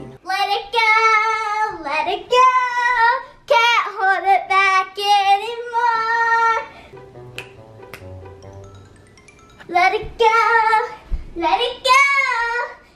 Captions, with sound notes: [singing] let it go, let it go can't hold it back anymore [snapping fingers] [singing] let it go let it go